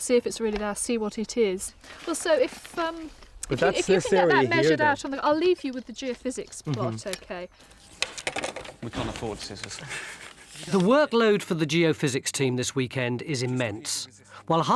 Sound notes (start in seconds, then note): 9.7 chuckles